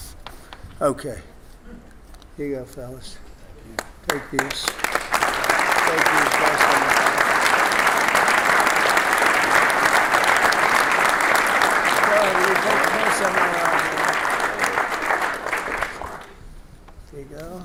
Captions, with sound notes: Okay, here you go, fellas. (applause)